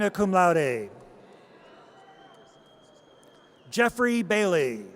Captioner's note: audience cheers